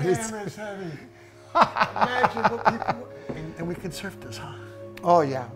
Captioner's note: laughing